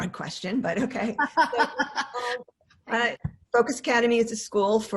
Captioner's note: laughing